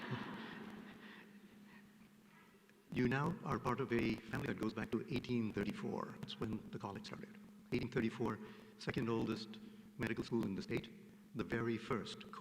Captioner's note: laughter